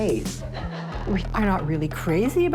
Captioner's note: audience laughing